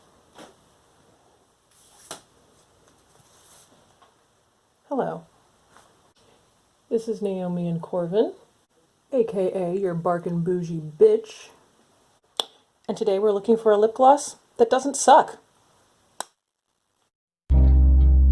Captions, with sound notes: [elastic snapping] Hello This is Naomi and Corvin A.K.A. your "bargain bougie bitch" And today we're looking for a lipgloss... That doesn't suck.